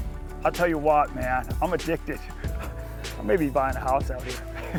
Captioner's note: laughs